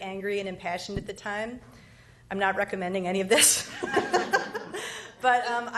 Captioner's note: laughs